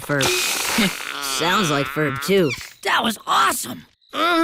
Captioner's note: doll farting